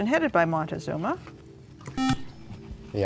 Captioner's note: beep